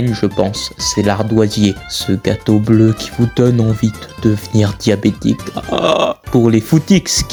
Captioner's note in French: orgasme